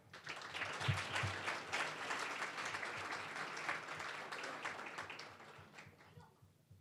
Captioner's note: applause